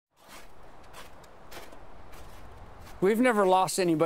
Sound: footsteps on snow

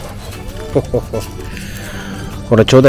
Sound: laughs

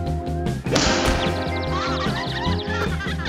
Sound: birds chirping

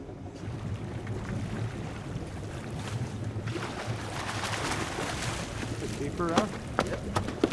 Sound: fish splashing

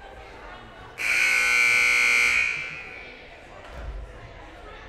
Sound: loud buzzer blaring

